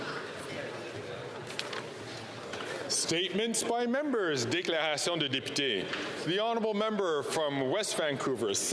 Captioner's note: speaking French